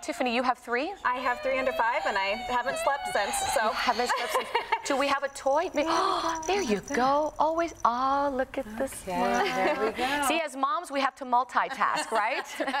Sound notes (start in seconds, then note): 3.5 crying; 3.5 laughs; 12.5 laughs